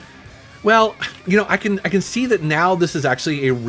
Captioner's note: sighs